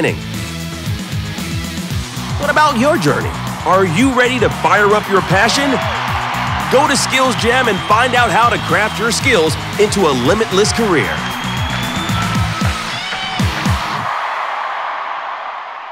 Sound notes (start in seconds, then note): 0.2 bright energetic music; 5.4 crowd cheering; 11.1 crowd cheering; 11.1 energetic music